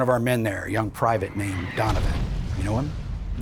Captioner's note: bomb rumbling